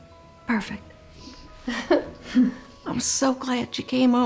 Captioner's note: chuckles